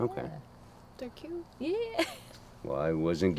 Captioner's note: riendo